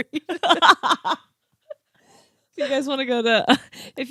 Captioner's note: laughing